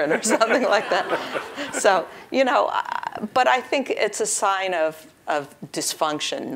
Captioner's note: laugh